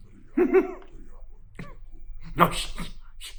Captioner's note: Chuck giggles